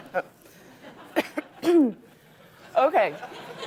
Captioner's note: laughter; coughs; laughter